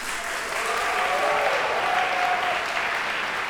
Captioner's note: cheers and applause